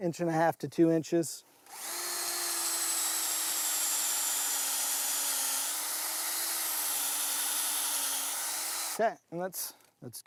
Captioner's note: drilling